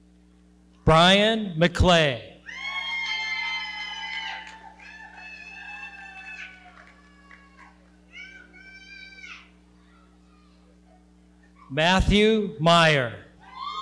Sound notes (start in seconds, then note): 2.4 audience cheering; 13.4 audience cheering